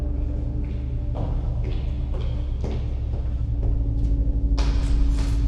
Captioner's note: footsteps thudding